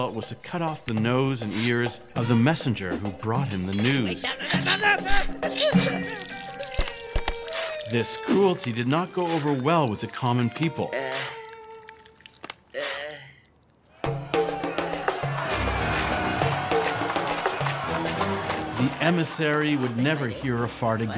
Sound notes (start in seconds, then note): 12.7 grunts in pain; 15.8 shouting